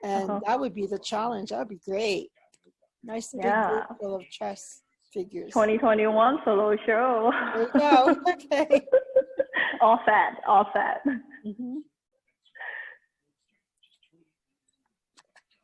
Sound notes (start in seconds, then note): 7.4 chuckles